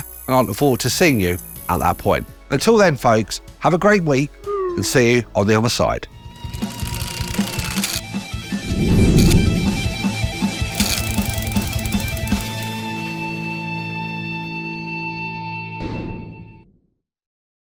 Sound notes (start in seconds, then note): 4.4 slide whistle droops; 8.0 upbeat rock music; 8.4 air whooshing; 9.1 cogs clinking